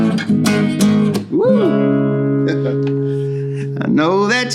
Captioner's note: chuckles